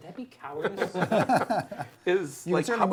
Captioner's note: laughter